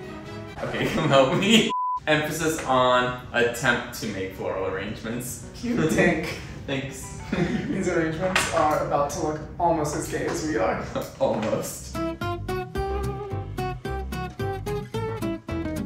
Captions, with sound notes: Okay, come help me. Emphasis on attempt to make floral arrangements - Cute tank. - Thanks (laughs). - These arrangements are about to look almost as gay as we are. - Almost. (uptempo whimsical music)